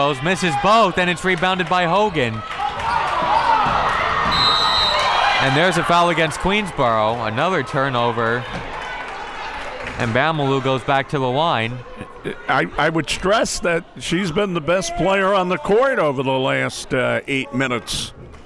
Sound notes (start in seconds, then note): 2.8 crowd members shouting; 4.3 whistle tweeting